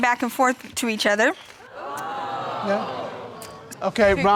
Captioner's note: crowd